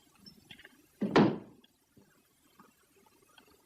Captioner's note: stamps floor